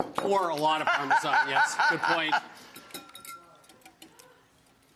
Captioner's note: giggles